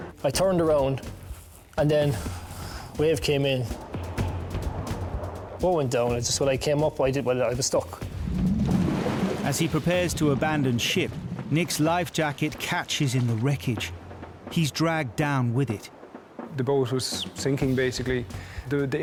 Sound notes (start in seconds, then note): 0.0 intense music; 3.9 intense music; 3.9 water whooshing; 8.0 water gurgling; 8.3 intense music